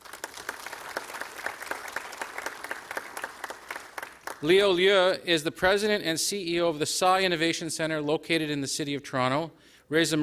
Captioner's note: applause